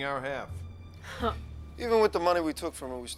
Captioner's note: Casey scoffs